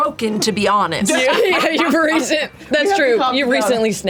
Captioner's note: laughs